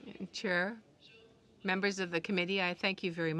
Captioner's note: speaking French